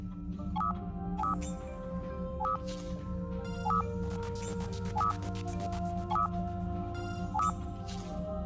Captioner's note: alert signal